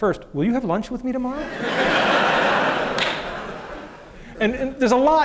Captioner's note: laughter